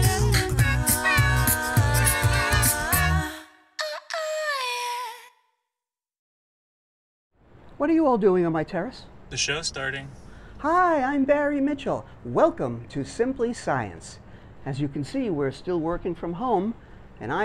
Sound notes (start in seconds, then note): 0.0 theme Music; 10.0 distant voice